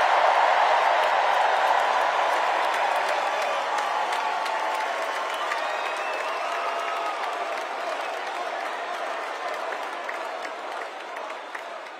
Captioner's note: cheers and applause